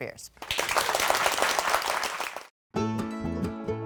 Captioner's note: audience applauding; upbeat country music